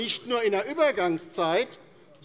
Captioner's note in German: none